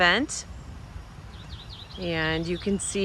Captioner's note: wind blowing